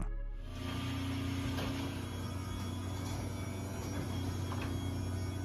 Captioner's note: roller door whirring